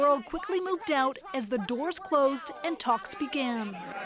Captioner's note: crowd noise